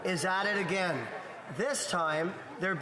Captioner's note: speaking French